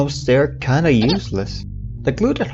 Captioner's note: baby noise